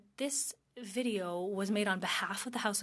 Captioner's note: speaking French